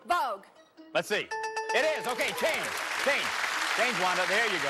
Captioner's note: bell rings